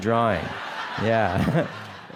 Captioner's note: laughter